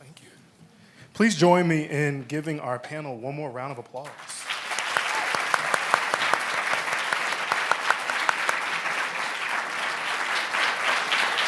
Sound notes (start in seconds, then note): 4.0 applauds